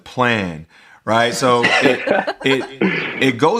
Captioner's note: laughter